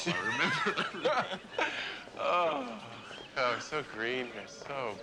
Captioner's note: both laugh